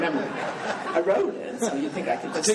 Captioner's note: laughing